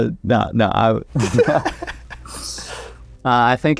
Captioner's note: laughs